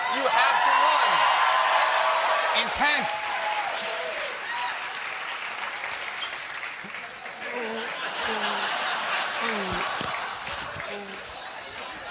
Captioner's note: cheers and applause